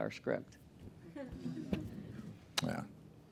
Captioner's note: laughter